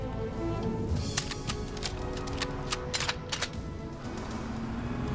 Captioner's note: suspenseful music; guns cocking